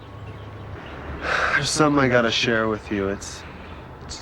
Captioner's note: sighs